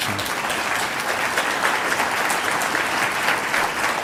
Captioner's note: applause